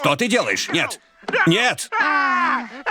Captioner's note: Lois grunts; moanining; scscreamining; Lois s gruntingng